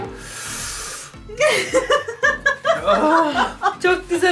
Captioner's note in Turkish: Gülüyorlar